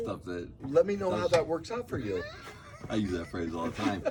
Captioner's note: laughing